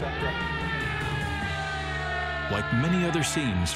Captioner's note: crowd yelling